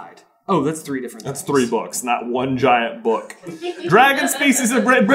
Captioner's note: team laughter